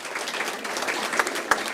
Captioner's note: applause